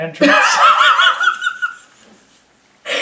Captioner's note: laughs